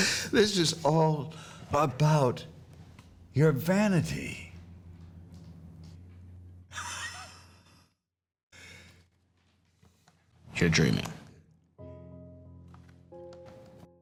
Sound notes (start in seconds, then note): 6.7 chuckles; 11.8 slow tempo music